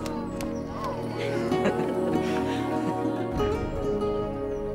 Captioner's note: laughing